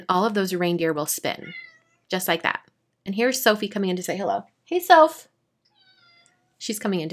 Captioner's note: meow